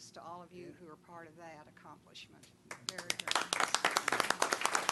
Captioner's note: applause